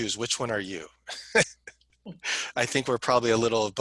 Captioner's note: laughter